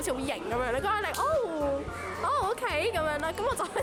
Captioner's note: clap